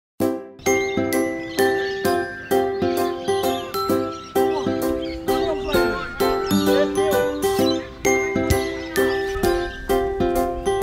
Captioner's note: birds calling in background